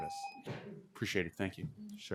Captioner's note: timer tone